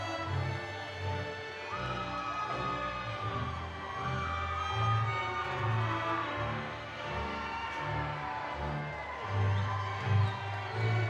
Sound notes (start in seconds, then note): 2.1 audience cheering